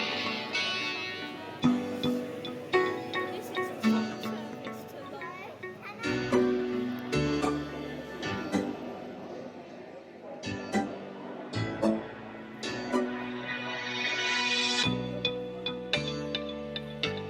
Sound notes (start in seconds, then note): 6.8 # uplifting music #; 6.8 background chatter